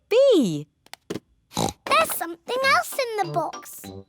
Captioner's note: oinks